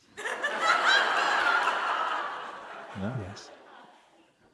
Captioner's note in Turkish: İzleyiciden kahkaha sesleri